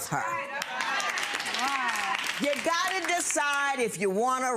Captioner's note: audience applauds